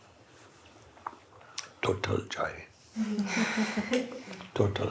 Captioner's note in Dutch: gelach